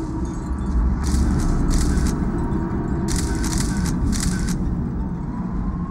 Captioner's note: shutter clicks